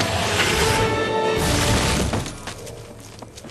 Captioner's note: crash